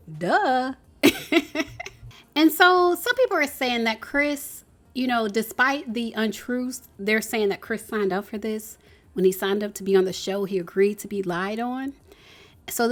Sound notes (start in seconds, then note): 1.1 laughing